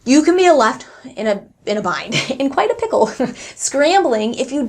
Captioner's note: chuckles